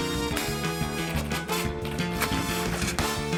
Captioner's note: keys clack